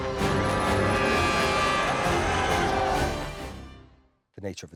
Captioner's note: dramatic music; spectators cheering